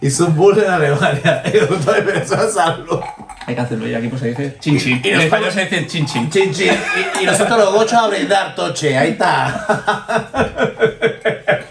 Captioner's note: laughs